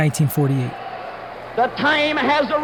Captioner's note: audience cheering